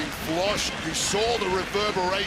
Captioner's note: audience cheering